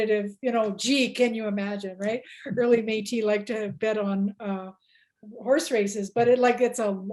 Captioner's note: laughs